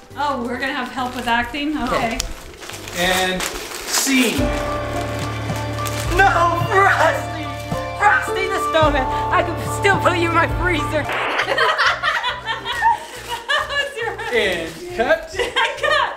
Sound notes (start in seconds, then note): 4.8 brooding music; 11.3 people laughing